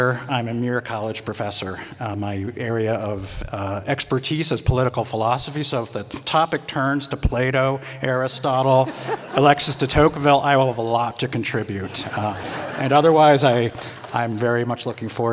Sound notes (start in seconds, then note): 11.8 laughter